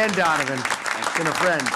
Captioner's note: applause